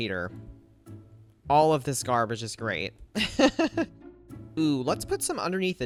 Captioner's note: laughs